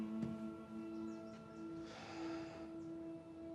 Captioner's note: deep exhale